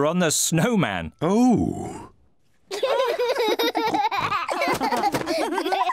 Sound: all giggle

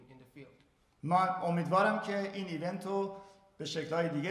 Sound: speaking in farsi

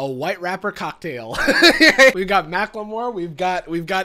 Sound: laughs

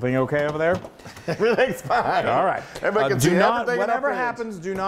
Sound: laugh

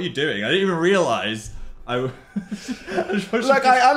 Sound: laughs

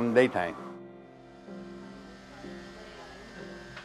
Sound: buzzing

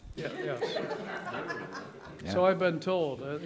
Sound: laughter

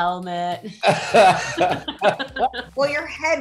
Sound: David laughing

